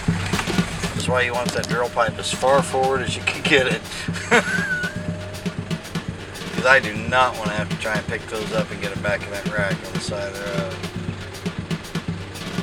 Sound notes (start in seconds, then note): 4.7 laughs